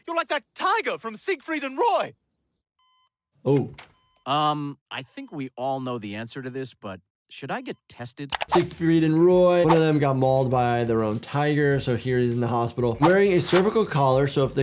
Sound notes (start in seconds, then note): 2.7 machine beeping